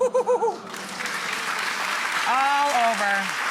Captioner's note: audience clapping